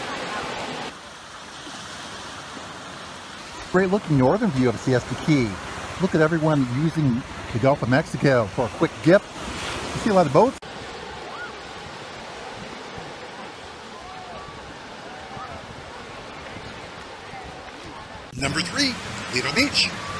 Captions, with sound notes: Great looking northern view of Siesta Key. Look at everyone using the Gulf of Mexico for a quick dip. You see a lot of boats. (water splashing) (crowd chattering) Number three, Lido Beach.